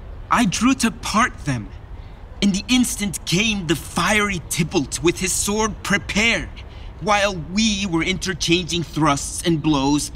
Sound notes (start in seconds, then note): none